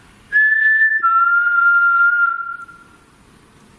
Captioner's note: whistling